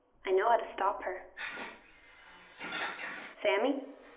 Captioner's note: metal clanking